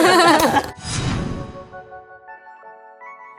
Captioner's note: both laughing